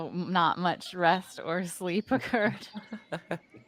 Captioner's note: chuckles; Cornette laughs; game Master laughs